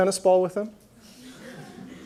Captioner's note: laughter